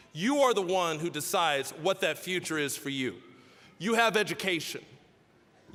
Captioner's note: none